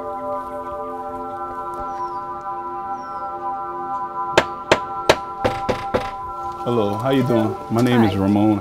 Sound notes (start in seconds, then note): 3.8 tapping; 5.4 knocking